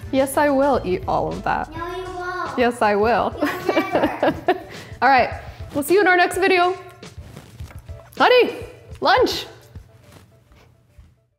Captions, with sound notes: - Yes I will eat all of that. - No you won't! - Yes I will. (laughing) - You'll never! - All right, we'll see you in our next video. Honey, lunch!